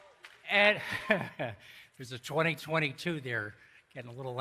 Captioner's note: laughs